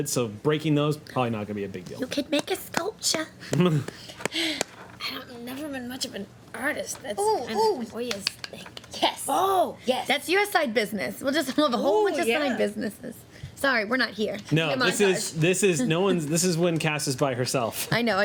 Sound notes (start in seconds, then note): 4.0 laughs